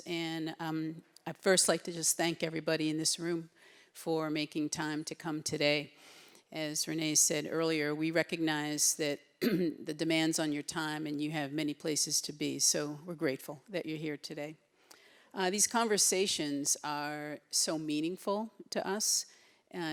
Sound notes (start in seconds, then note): 9.4 clears her throat